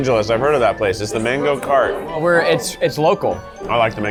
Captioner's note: none